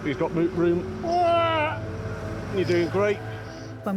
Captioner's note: shouts